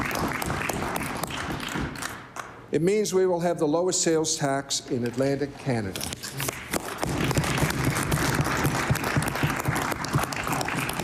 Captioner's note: applause